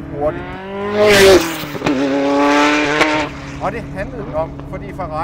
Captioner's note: F40 blows past